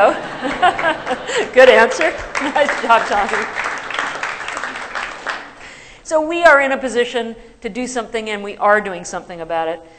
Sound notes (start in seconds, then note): 0.0 laughter; 1.6 applause